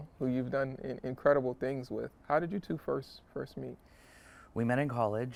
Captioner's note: none